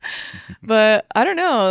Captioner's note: laughing